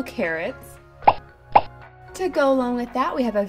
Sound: popping

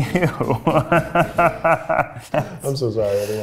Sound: both laughing; laughs

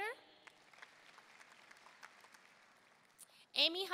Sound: audience applauding

